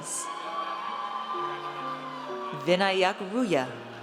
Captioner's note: audience cheers